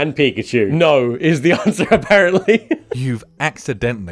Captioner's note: laughing